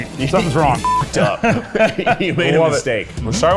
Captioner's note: laughs